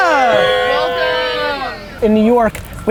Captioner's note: cheers